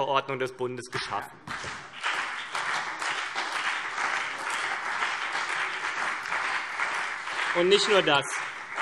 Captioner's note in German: Beifall CDU und BÜNDNIS 90/DIE GRÜNEN